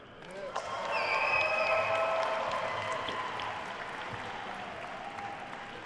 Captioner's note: attendees cheering and applauding